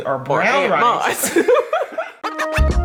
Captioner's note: laughing; upbeat music